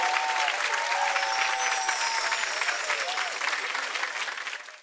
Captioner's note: magical sounds